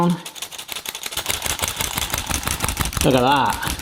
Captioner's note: sieve rattling